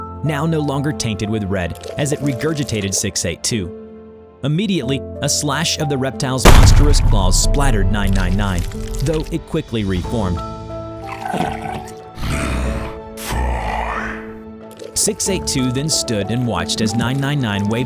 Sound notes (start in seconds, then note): 11.1 tired gurgle; 12.2 scoffs